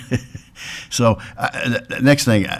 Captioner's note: chuckles